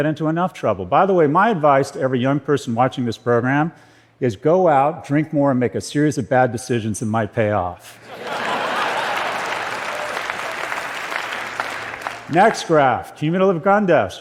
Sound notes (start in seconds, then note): 7.9 laughter and applause